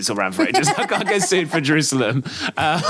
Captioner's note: both laughing